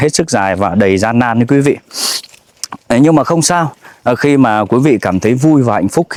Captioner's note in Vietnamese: khịt mũi